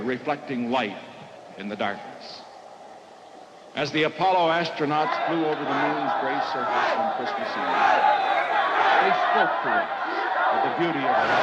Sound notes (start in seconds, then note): 7.2 protesters' chants grow louder